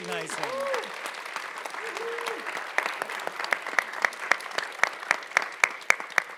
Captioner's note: audience cheering and clapping